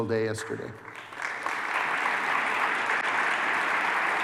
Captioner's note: applause